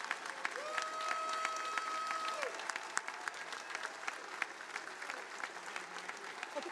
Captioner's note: attendees applauding